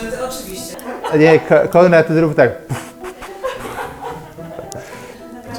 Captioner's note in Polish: głos w tle; śmiechy w tle